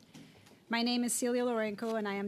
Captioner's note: speaking French